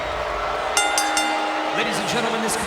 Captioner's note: bell dings